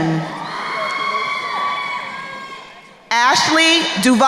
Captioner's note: crowd cheering